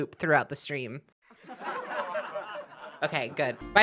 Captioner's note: sitcom laughter